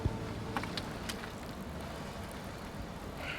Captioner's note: gas dripping